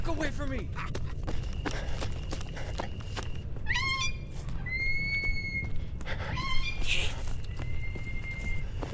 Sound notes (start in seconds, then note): 3.3 Anubis cackling; 4.8 chirping birds